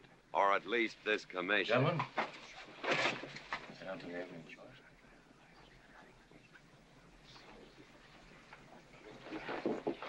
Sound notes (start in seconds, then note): 3.7 whispering